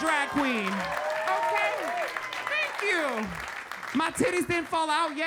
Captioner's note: audience cheering